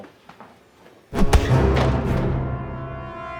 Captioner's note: punch thuds; ominous music